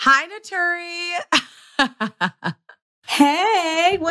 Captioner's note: laughs